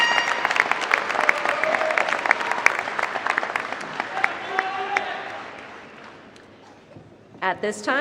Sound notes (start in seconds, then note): 5.5 applause